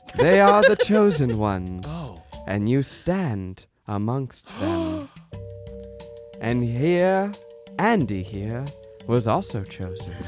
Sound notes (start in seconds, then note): 4.5 gasps